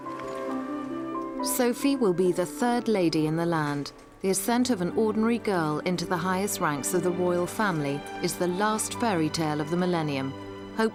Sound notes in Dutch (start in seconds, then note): none